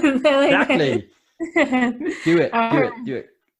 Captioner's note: laughing